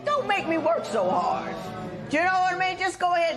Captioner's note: spectators murmur